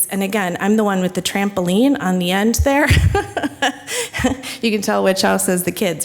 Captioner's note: chuckles